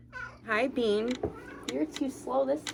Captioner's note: meow